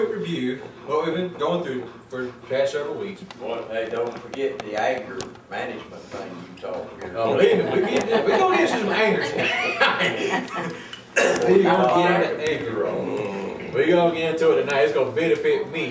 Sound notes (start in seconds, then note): 10.4 chuckles; 11.2 group laughs